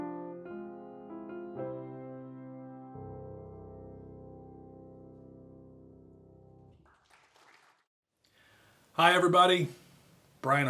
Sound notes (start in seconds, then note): 6.8 audience applauding